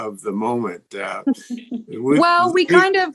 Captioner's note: laughs